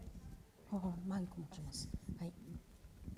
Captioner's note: speaking japanese